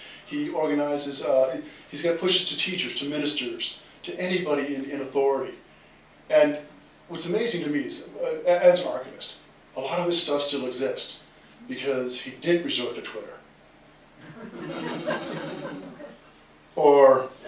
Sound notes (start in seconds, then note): 14.2 laughter